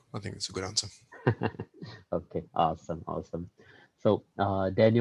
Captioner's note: laughs